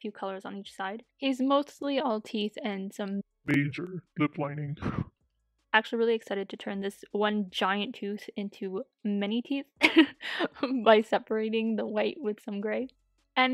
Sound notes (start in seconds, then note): 3.4 DEEP VOICE: "Major lip lining"